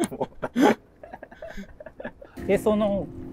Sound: laughing

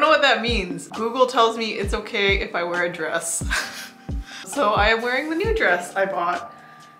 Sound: laughs

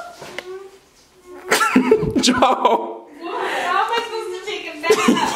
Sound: laughs

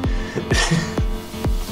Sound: chuckles

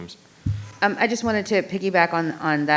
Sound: microphone clattering

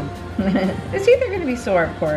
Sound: laughs

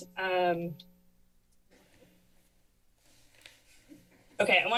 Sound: pause

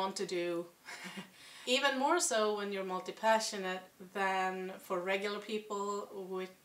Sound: chuckle

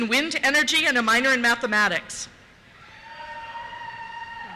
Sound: cheers

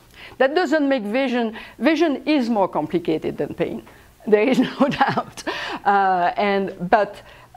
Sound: laughs

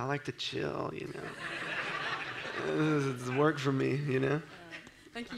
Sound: audience laughs

